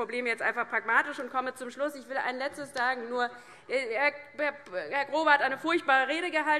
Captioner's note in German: none